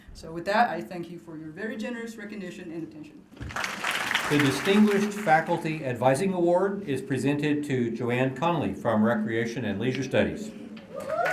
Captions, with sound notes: SO WITH THAT, I THANK YOU FOR YOUR VERY GENEROUS RECOGNITION AND ATTENTION. [APPLAUSE] >> THE DISTINGUISHED FACULTY ADVISING AWARD IS PRESENTED TO JANE CONOLEY FROM RECREATION AND LEISURE STUDIES.